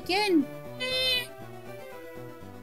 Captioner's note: meow